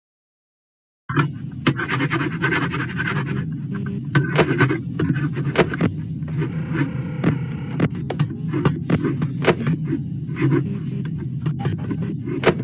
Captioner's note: Sons de mouse